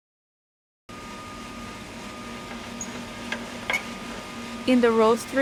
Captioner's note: roaster machine whirring